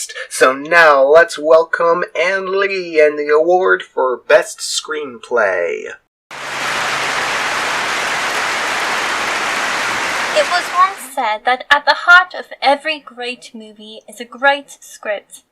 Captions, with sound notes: So now let's welcome Ann Lee and the award for best screenplay. [Clapping] It was once said that at the heart of every great movie is a great script.